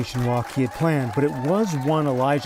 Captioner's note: cheers and applause